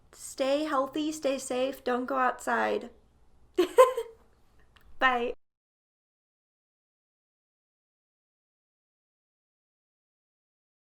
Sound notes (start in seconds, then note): 3.6 laughing